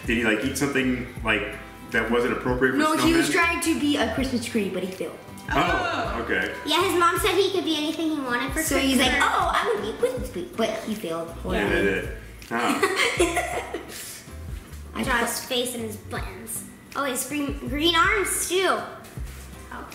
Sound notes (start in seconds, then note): 12.5 laughing